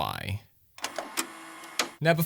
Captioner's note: vhs whirring noises